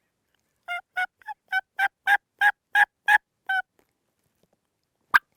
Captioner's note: turkey calling